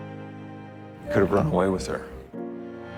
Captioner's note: voiceover